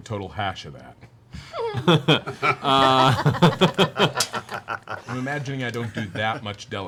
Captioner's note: laughter